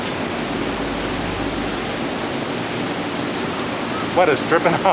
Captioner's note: sound of rushing water